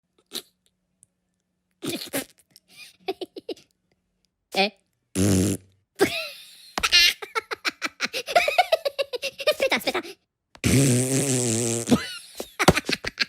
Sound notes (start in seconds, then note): 0.1 Minions are speaking in Minionese, laughing and playing jokes